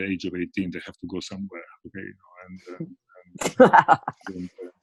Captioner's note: laughs